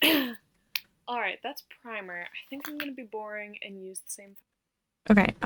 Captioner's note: clears throat